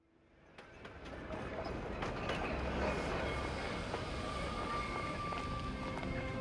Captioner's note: trolley clanging on tracks